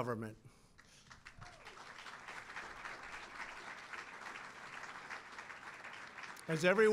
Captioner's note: applause